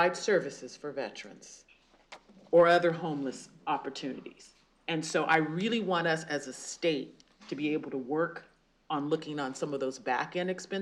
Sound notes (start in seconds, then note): none